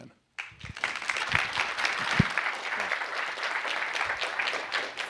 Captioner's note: applause